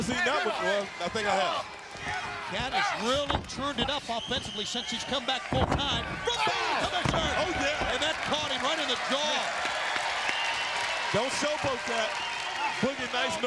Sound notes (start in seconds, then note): 9.7 crowd applauds